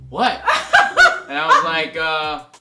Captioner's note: laughs